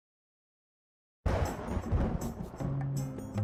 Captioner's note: thunder; tropical music